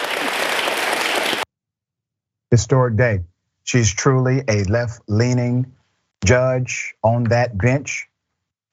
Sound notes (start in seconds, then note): 0.0 applause